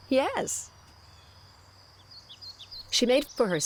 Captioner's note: birds tweet